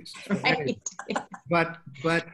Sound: laughing

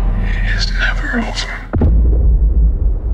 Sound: whispers

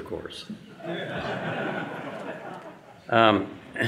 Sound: audience laughing

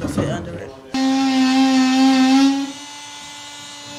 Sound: sawing

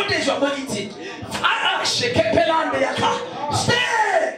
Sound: speaking in tongues

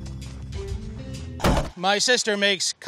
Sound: cheesy music; fist pounding

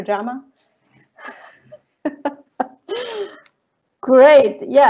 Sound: chuckling

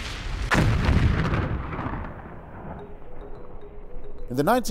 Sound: rumbling Sound; explosion; light Suspenseful Music

